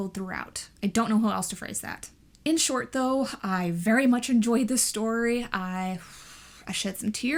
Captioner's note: sighs